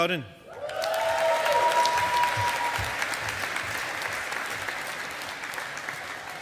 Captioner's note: audience applauding